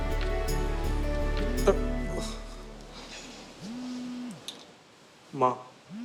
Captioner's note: phone vibrates